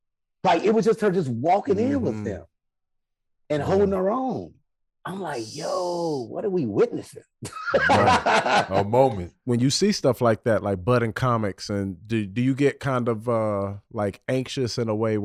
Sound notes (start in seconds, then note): 7.5 Rel laughing